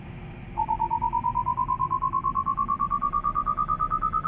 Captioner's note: machine beeping